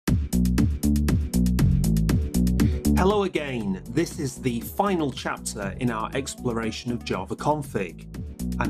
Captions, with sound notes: (upbeat music) - [Voiceover] Hello again, this is the final chapter in our exploration of JavaConfig.